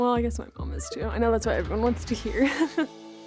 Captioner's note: laughs